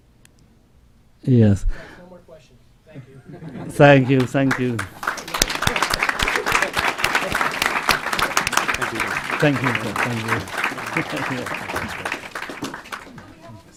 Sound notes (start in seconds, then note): 3.1 laughing; 7.3 clapping